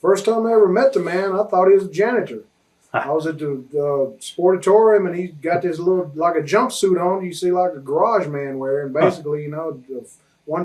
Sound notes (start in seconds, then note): 3.6 chuckles